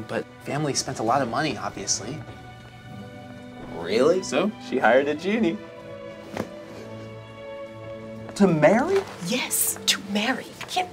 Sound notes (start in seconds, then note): none